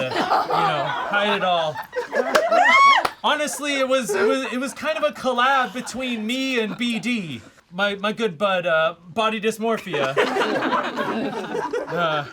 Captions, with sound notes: you know, hide it all. (all laugh) Honestly, it was kind of a collab between me and BD, my good bud, body dysmorphia.